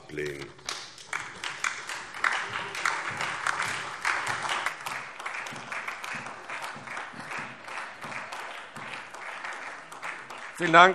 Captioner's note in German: Beifall SPD